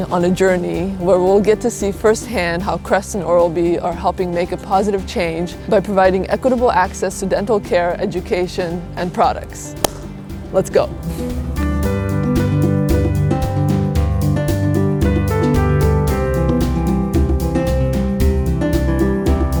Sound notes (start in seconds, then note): 9.8 hands clap; 11.7 upbeat music